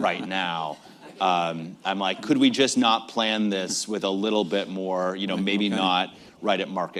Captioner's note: laughter